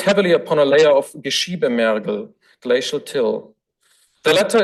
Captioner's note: foreign language